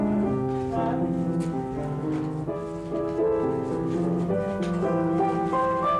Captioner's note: soft piano music; cameras clicking